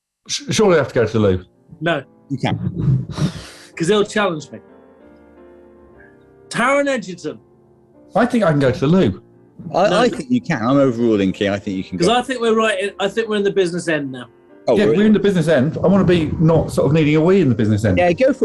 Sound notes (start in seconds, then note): 2.6 sighs